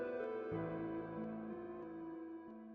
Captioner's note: none